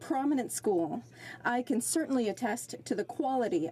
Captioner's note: speaking French